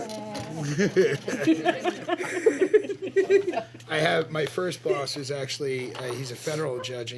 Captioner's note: laughter